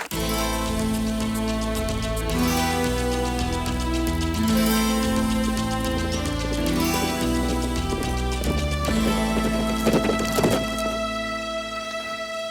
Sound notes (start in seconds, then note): 0.1 brooding music; 8.0 hooves clop